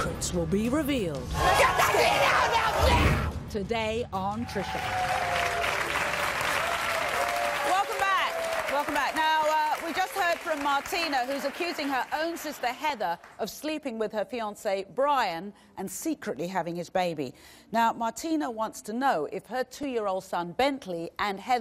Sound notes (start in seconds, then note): 5.9 audience applause